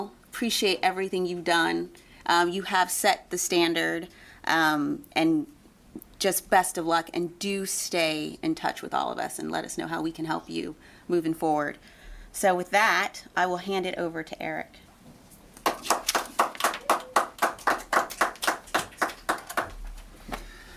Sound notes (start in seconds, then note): 15.6 people applauding